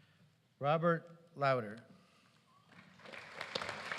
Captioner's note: applause